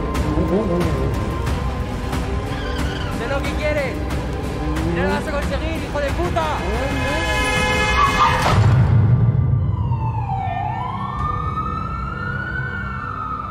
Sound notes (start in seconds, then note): 6.6 horn; 9.6 sirens